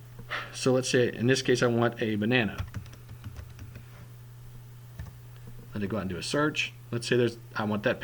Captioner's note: typing